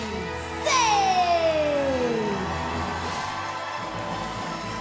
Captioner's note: cheers and applause